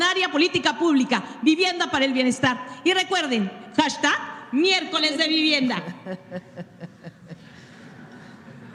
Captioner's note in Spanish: risas